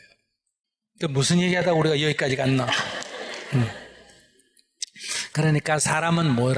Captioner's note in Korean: 질문자 / 청중 웃음